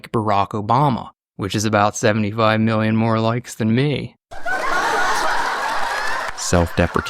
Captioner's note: crowd laughter